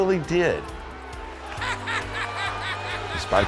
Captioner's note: laughs